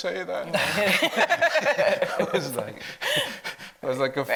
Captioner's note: all laugh